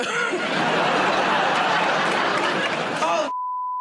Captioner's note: laughter and applause